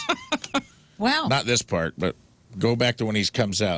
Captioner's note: laughing